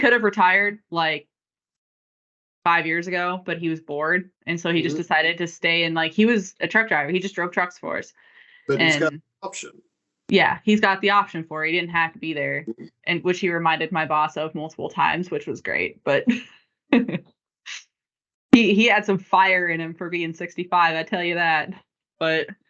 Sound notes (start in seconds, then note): 17.3 laughing